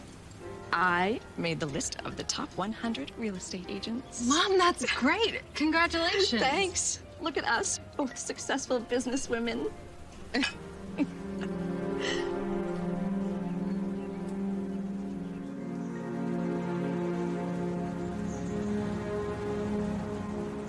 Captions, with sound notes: - I made the l list of the Top 100 Real Estate Agents. - Mom! That's great! Congratulatitions! - Thanks! Look at us, both s successful businesswome! (chuckling) (birds chirping) (suspenseful music)